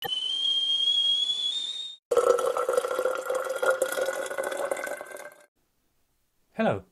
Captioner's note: sound of kettle boiling and water pouring